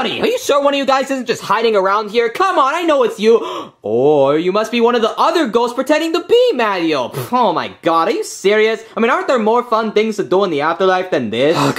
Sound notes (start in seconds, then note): 3.4 gasping